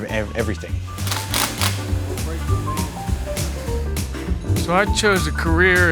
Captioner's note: drill whirring